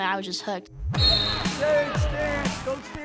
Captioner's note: whistle blows